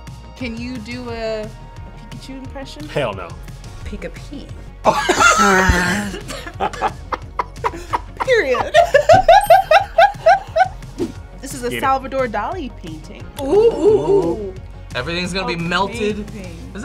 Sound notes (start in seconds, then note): 4.8 both laugh; 9.5 laughs; 10.1 wink chimes